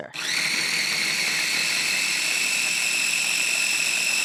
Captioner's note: food processor whirring